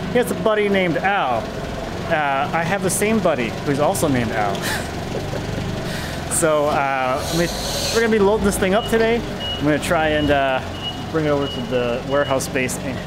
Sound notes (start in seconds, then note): 4.6 laughing